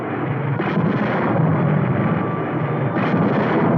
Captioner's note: explosions booming